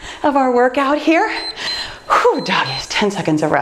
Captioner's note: timer beeps